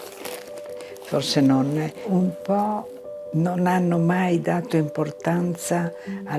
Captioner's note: speaking in foreign language